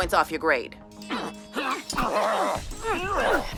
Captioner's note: kids grunting; steel clashing